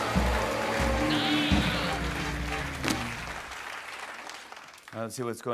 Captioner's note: suspenseful music plays; cheers and applause; applause